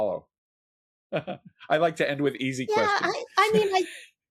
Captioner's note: chuckles